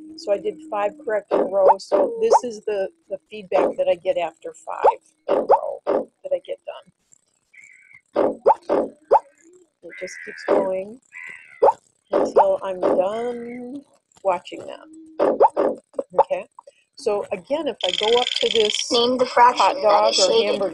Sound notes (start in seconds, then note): 4.7 bleating and snorting; 7.7 bleating and snorting; 19.1 voiceover